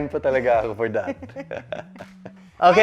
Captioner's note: chuckles